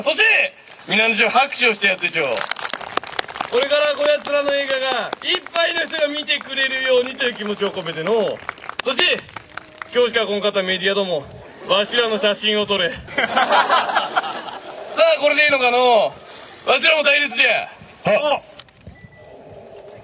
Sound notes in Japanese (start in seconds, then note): 2.0 拍手; 13.1 笑・笑・笑